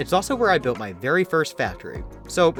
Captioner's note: none